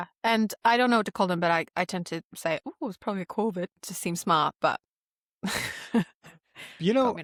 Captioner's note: laughs